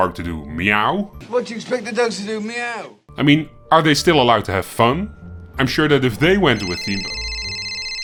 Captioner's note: phone ringing again